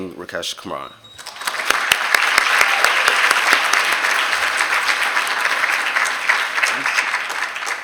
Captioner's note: applause